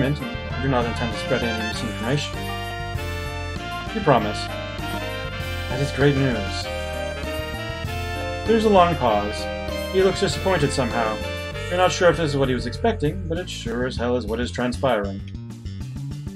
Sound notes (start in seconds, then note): none